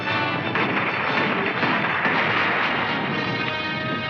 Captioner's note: thrilling music; gunshots firing